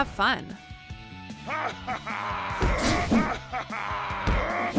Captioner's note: laughs